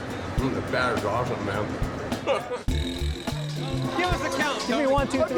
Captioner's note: laughs